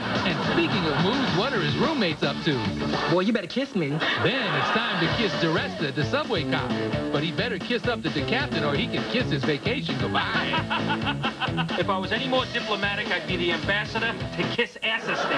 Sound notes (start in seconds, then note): 3.7 unnecessarily raucous laugh track; 10.0 laughing